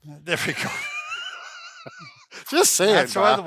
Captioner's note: laughing